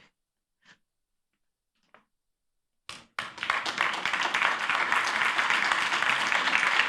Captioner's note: applause